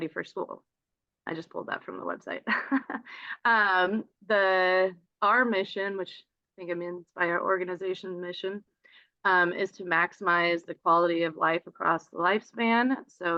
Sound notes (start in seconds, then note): 2.5 chuckles